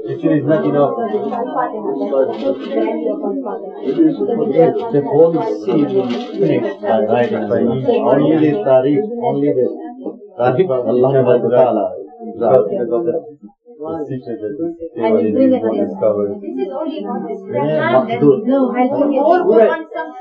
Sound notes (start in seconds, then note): 8.0 speaking another language; 10.3 speaking another language; 12.3 speaking Farsi